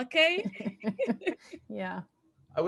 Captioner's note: both laughing